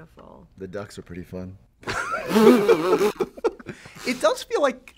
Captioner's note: laughter